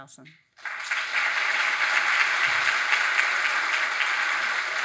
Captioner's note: audience applauding